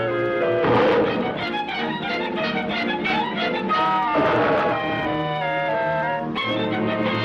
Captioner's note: dramatic music; gorillas snarls